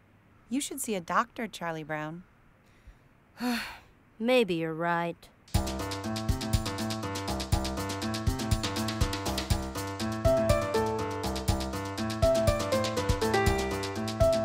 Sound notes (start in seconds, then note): 3.3 sigh; 5.5 upbeat Music